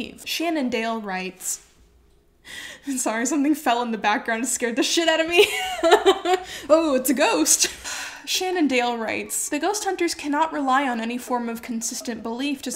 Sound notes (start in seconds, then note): 1.4 item crackles; 2.3 laughing; 5.5 laughs; 7.6 sighs